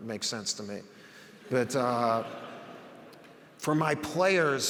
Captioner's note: audience laughs